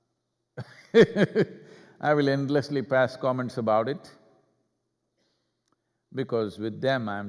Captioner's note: laughs